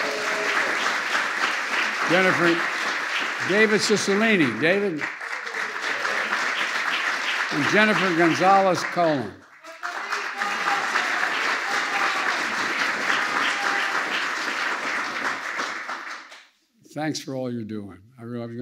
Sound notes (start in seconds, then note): 0.2 applause; 5.5 applause; 10.7 applause